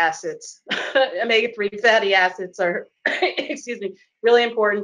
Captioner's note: coughs